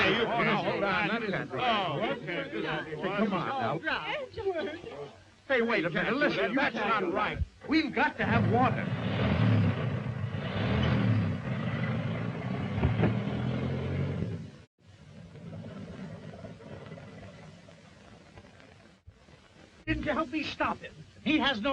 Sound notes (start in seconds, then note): 0.0 all murmuring; 8.2 engine revving